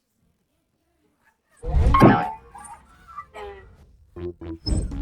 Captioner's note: boing!